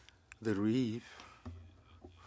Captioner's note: speaking French